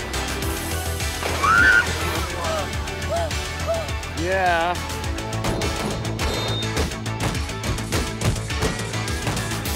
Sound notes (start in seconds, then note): 1.4 shrieks; 5.2 upbeat music